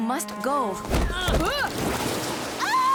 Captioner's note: grunting; female screaming